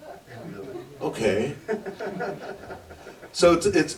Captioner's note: laughter